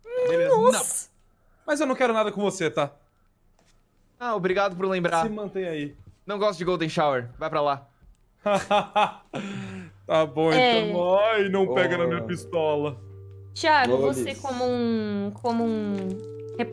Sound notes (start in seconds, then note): 8.5 fake laugh